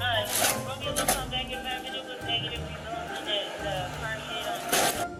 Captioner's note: radio chatter